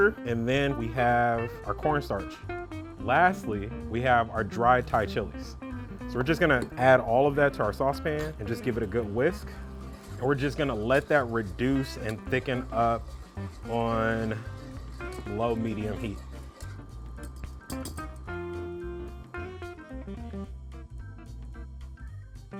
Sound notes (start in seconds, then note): 16.6 stirring mixture; 17.4 tapping pot; 19.3 jazzy music